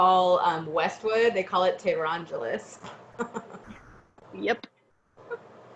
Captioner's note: laughs